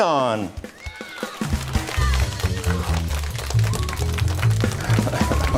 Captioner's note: applause